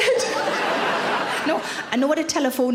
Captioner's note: audience laughter